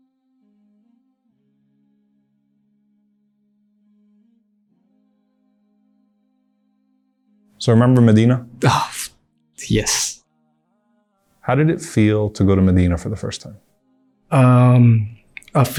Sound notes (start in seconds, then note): 0.0 calm music; 8.6 sighs